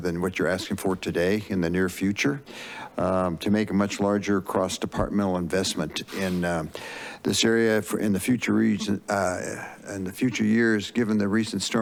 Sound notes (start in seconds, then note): 6.0 inhales